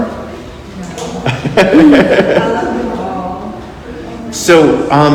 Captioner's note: laughs